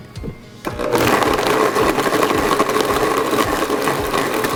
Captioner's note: blender whirring